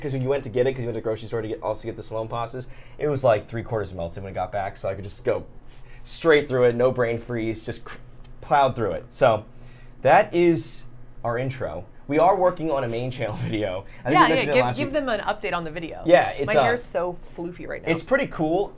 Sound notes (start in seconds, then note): 13.6 laughs